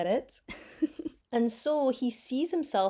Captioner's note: chuckles